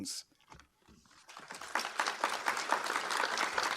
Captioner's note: applause